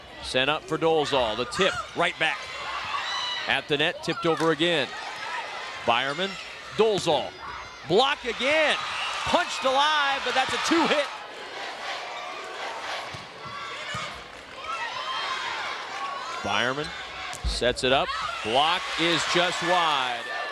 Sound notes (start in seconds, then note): 12.3 crowd chanting